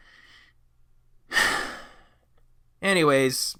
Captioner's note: sigh